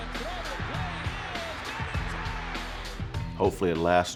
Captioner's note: cheering crowd